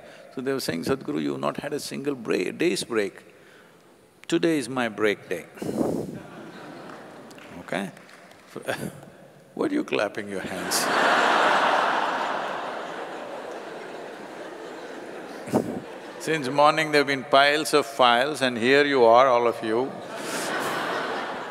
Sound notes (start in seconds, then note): 6.3 laughter/Applause; 10.6 laughter; 19.9 laughter